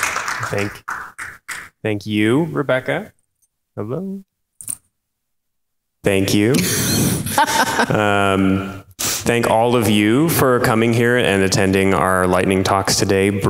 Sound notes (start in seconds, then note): 7.2 laughs